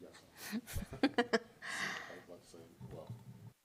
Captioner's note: laughs